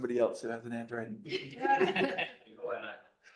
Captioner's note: laughter